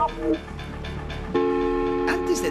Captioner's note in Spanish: silbato